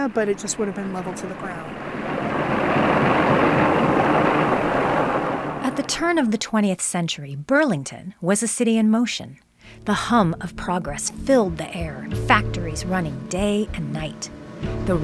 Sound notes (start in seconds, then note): 3.1 train chuffing